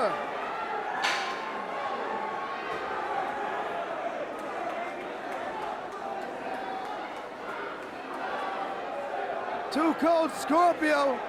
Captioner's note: crowd chatter